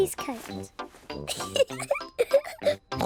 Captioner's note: giggles; oinks